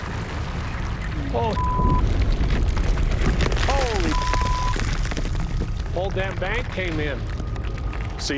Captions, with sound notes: - Holy (beep). - Holy (beep). - Whole damn bank came in.